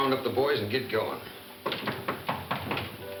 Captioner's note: visitor knocking; gentle piano music